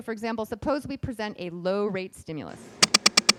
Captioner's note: beeping